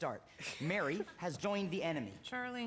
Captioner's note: chuckles